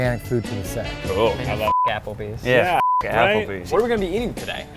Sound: beep

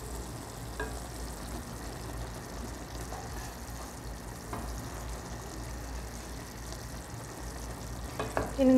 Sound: stirring

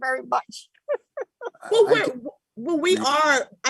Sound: chuckles

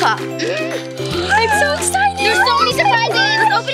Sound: gasping

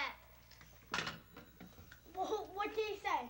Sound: phone hangs up

